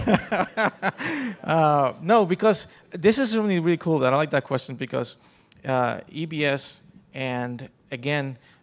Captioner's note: laughter